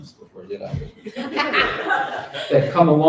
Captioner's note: laughter